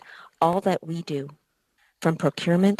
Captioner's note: speaking French